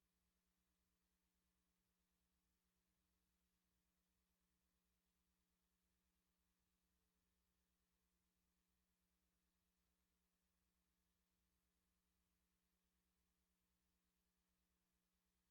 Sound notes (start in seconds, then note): none